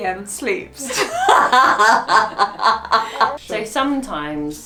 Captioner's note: laughs